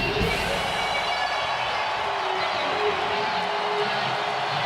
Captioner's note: audience cheers